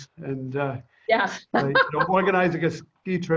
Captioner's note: laughs